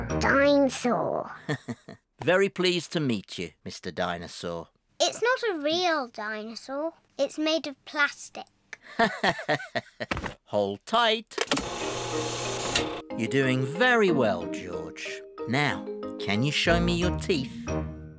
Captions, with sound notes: -Dinosaur. -(CHUCKLES) Very pleased to meet you, Mr. Dinosaur. It's not a real dinosaur, it's made of plastic. (LAUGHS) Hold tight. You're doing very well, George. Now, can you show me your teeth?